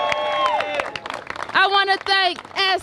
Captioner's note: applause